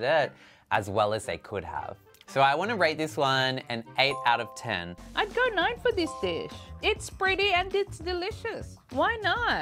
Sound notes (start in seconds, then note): 4.1 chime; 5.4 upbeat music; 6.0 chime